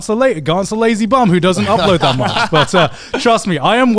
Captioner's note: laughing